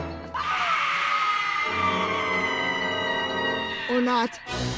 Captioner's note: people screaming